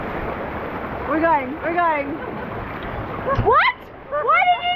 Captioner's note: laughing